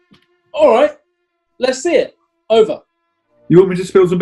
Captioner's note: none